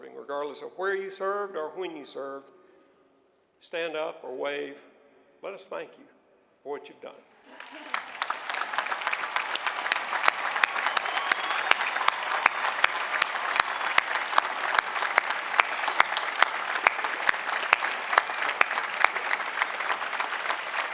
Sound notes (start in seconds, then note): 7.5 applause; 10.8 cheering